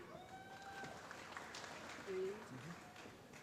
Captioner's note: applause